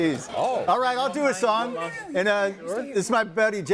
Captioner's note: group chattering